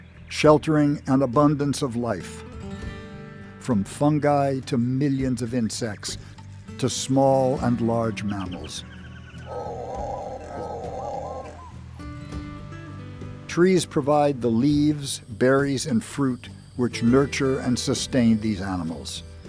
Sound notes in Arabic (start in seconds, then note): 9.4 نداء القرد